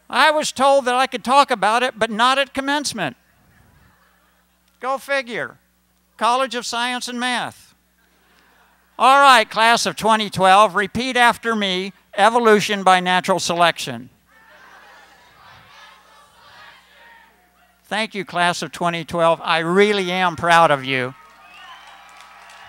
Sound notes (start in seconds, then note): 14.3 crowd; 21.1 cheering, applause